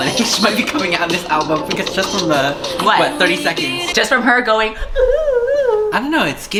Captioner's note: vocalizing